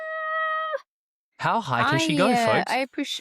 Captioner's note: chuckles